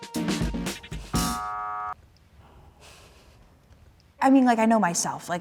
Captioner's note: buzzer buzzing